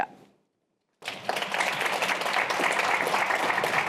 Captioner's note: applause